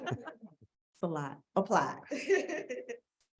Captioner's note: people laughing